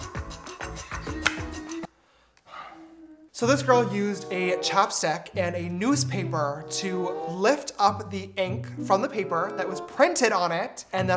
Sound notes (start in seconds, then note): 2.4 sigh